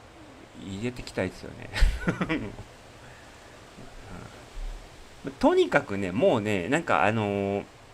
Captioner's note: laughter